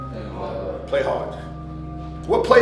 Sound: slow music; overlapping chattering

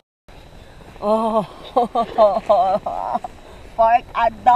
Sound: laughing

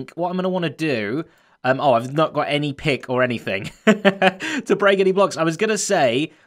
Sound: chuckles

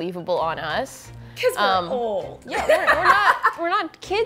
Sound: laughs

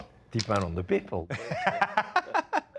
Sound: Ming laughs

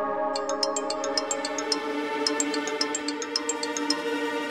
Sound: mobile phone ringing

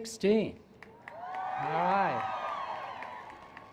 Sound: cheers

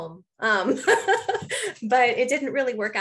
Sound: laughing

